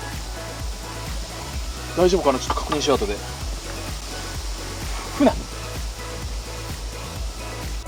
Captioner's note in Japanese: 穂先をトンネルのコンクリートに擦る音